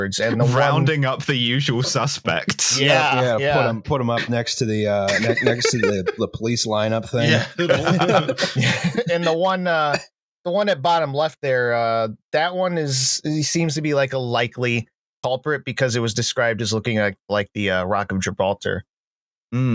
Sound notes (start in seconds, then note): 0.2 laughing; 7.1 laughter; 7.1 laughs